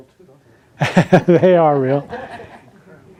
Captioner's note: laughs